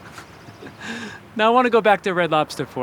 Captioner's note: chuckling